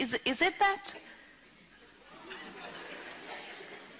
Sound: few laugh

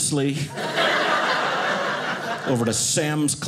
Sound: audience laughing

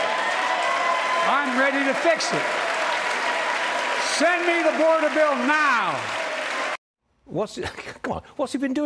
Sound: cheers and applause

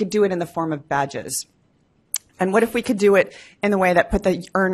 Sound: none

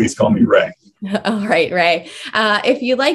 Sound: chuckles

